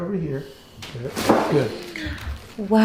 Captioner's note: joint cracking